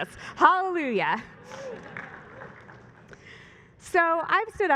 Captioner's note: applause